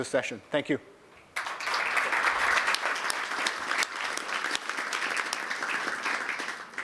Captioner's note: applause